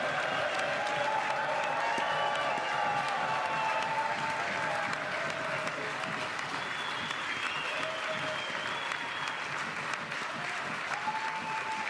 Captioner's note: applause